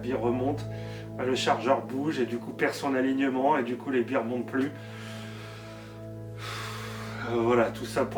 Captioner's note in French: soupir